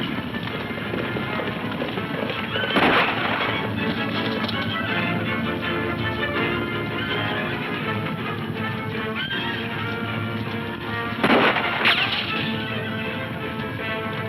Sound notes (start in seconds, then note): 1.2 dramatic music; 2.4 gun firing; 5.6 horses neighing; 9.6 gun firing